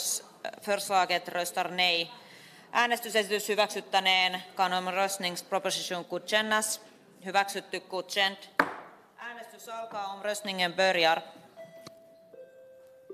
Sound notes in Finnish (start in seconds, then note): 8.6 nuijan kopautus